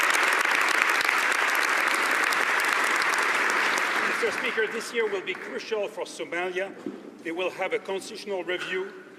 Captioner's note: applause